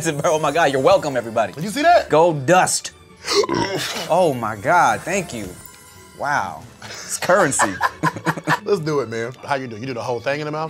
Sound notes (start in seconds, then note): 3.3 burps; 7.2 laughter